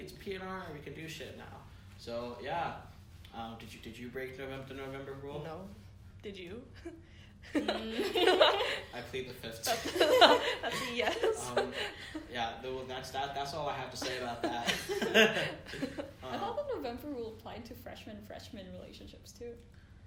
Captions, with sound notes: it's P.N.R., we can do shit now. So yeah. Um, did you, did you break the November rule? - No, did you? (laughs). (group laughter) - I plead the 5th. (group laughter) - That's a yes. - Yeah, though, that's all I have to say about that. (group laughter) - I thought the November rule applied to freshman-freshman relationships too.